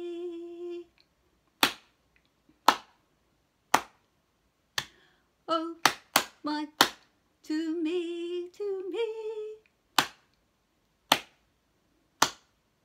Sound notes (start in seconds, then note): 1.0 clap clap, clap, clap; 2.7 clap, clap; 5.8 clap; 5.8 clap clap; 5.8 clap, clap, clap, clap